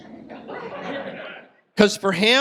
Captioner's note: audience laughs